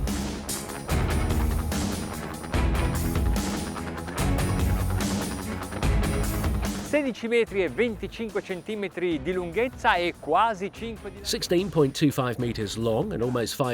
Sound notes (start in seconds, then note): 0.2 dramatic music; 7.0 speaking in foreign language